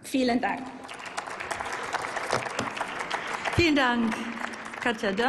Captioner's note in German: Applaus